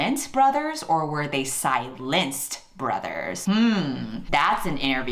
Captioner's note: humming